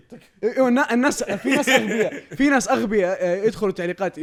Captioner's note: laughs